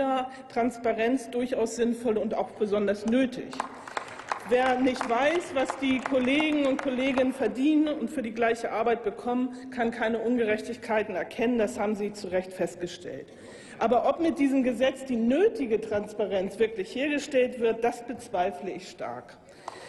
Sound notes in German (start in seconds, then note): 3.5 Applaus